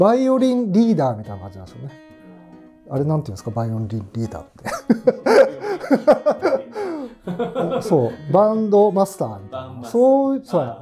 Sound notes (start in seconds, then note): 7.9 laughing